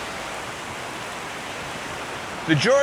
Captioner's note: river rushing